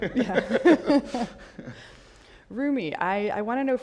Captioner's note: all laugh